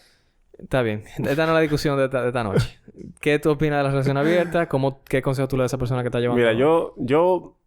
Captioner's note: laughs